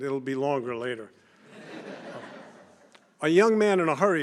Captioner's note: laughter